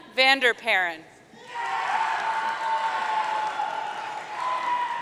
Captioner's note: audience cheering